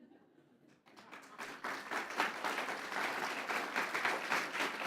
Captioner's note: applause